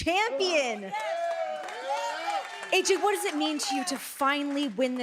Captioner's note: applause